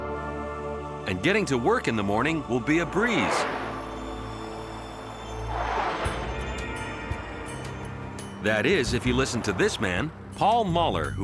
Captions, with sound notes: And getting to work in the morning will be a breeze. [aircraft roaring] [gentle upbeat music] That is, if you listen to this man, Paul Moller,